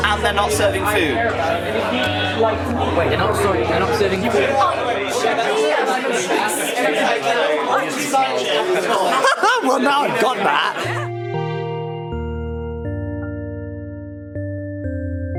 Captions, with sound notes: and they're not serving food. (people chattering) - I'm Jenny. And I'm a big smelly butt. (people laughing) - [Male Voice] Well now I got that. (soft piano music)